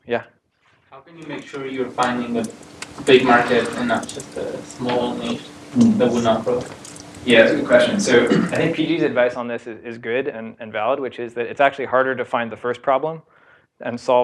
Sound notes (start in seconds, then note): 8.2 cough